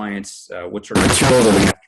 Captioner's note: audio distorts